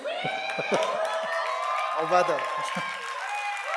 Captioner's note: audience cheers and applauds